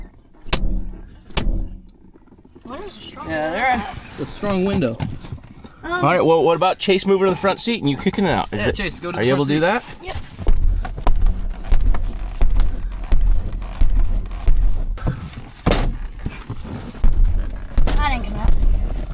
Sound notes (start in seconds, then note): 10.1 foot hitting window; 15.6 visor hitting roof